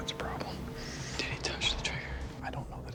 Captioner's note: whispering